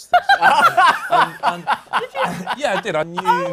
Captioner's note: laughter